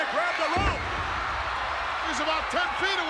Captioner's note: audience cheers